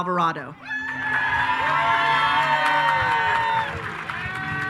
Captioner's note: attendees cheering